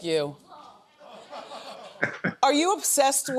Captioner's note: audience laughing